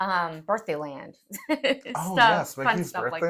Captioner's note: laugh